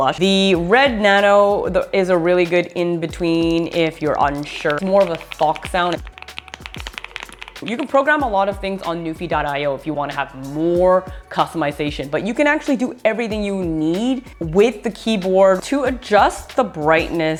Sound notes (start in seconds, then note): 4.3 keyboard clicking